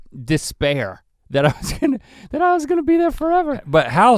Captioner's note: chuckles